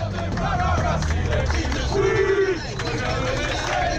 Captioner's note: chanting